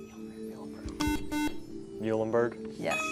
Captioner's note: buzzer